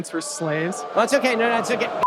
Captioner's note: audience boos